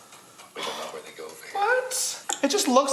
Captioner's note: sighs